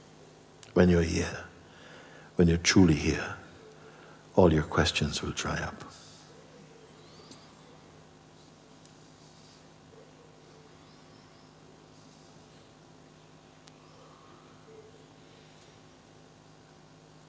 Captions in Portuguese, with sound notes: Quando você está aqui, quando você está realmente aqui, todas as suas perguntas vão secar. [silêncio]